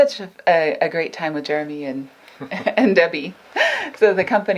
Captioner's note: laughs